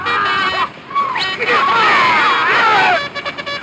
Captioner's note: bugle blaring; men yelling